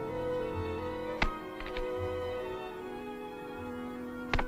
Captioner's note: chopping wood